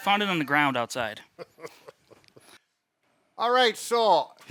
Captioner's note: laughs